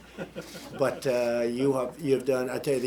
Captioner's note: laughter